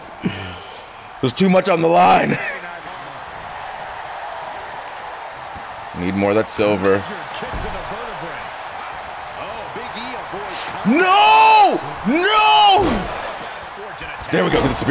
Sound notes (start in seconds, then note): 2.2 laugh; 5.2 applause